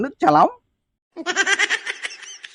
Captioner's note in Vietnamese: Tiếng cười